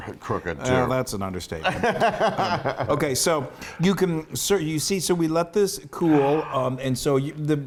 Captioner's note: laugh